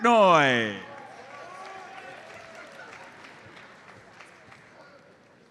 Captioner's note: audience applauds